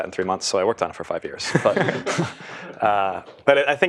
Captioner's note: laugh